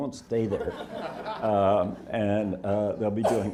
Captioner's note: audience laughing